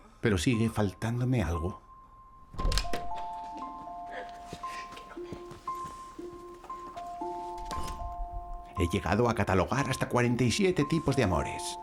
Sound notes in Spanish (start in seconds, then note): 4.1 mujer riendo